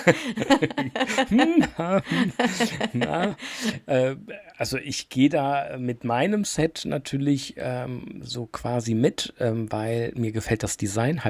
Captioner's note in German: gelächter